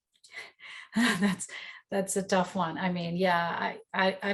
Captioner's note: chuckles